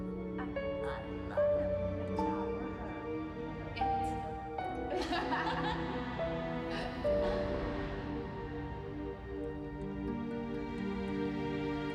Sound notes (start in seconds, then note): 2.8 indistinct chatter; 4.7 laughter